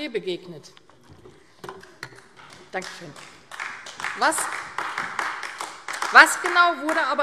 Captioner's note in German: Beifall AfD